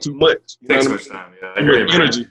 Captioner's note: speaking away from mic